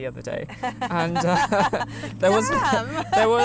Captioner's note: laughter